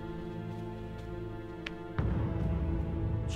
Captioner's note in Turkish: El vurma sesi